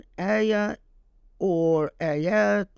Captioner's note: speaking Arabic